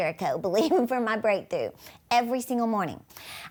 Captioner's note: chuckling